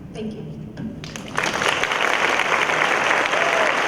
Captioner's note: applause